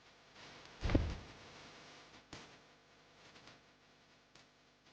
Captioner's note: thud